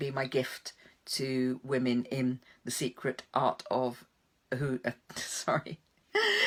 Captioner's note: laughs